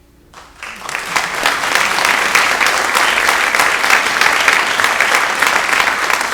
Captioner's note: audience applauds